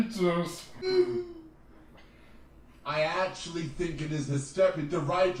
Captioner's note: laughs